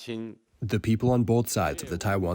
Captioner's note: through translator